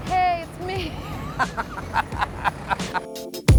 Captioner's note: laughter